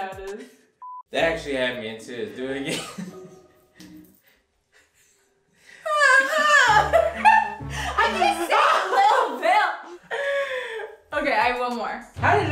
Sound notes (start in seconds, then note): 6.1 mimic tv show theme